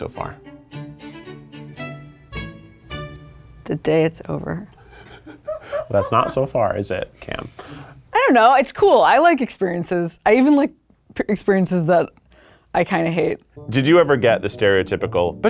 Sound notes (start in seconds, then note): 0.2 upbeat orchestral music; 4.9 people laughing